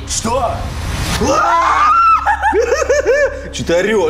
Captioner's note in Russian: крик; Истерический крик